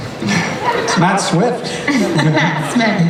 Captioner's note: voiceover